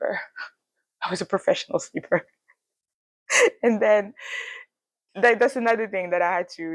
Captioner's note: laughs